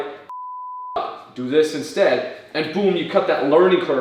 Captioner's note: beep